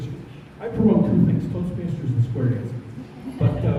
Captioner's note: laughter